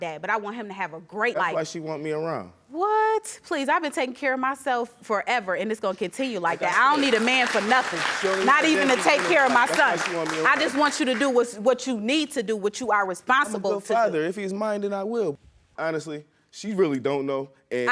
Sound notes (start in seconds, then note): 6.5 audience applauding